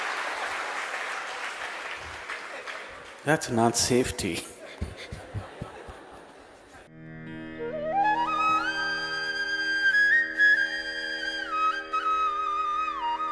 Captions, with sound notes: That's not safety. ( Laughs)